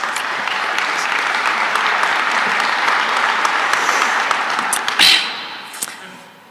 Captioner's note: applause